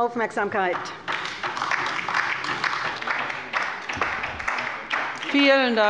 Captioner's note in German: Beifall bei der LINKEN